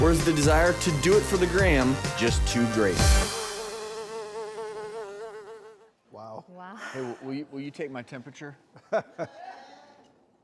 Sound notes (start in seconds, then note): 3.3 flies buzzing; 8.8 laughs